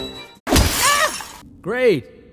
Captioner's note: smack